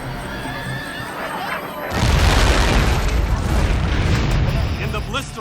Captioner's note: explosion